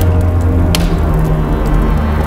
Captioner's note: flames crackling